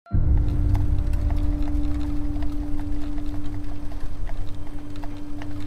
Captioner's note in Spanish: Traqueteo de carreta